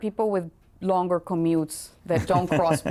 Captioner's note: laughter